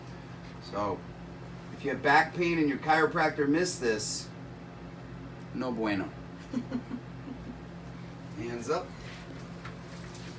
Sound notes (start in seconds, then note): 6.4 chuckling